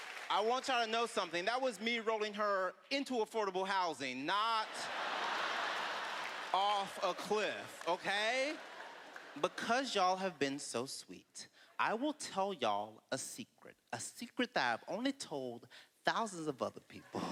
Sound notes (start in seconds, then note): 4.6 laughter